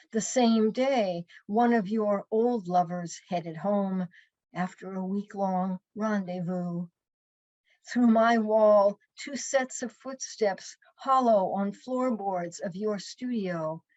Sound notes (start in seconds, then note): none